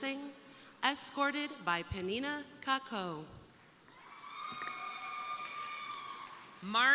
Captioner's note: crowd cheering